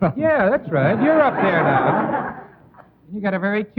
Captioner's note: audience laughing